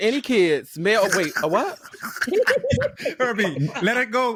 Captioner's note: laughter